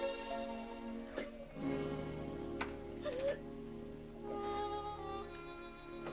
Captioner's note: upbeat music; Vinnie sobbing; soft sad music